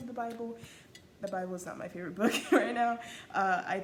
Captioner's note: laughs